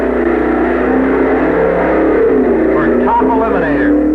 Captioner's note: engines roaring